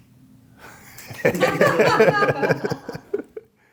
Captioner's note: laughing